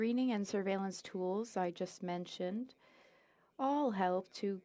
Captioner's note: speaking French